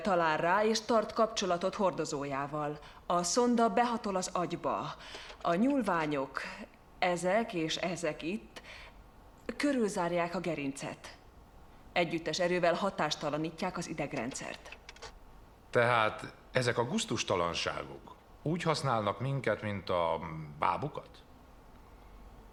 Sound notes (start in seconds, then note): 13.7 slide projector clicks